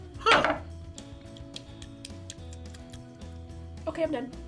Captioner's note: smacks lips